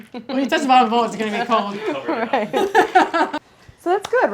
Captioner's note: laughs